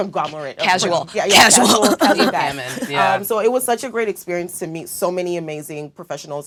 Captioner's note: laugh